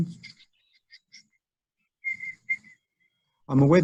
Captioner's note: whistles